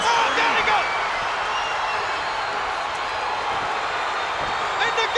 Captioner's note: crowd cheering